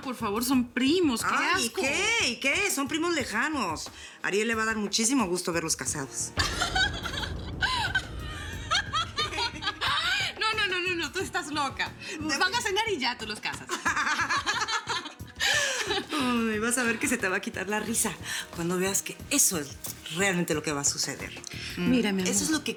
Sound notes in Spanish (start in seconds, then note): 8.5 Carcajadas; 15.4 Carcajadas